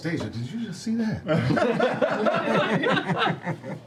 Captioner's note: laughter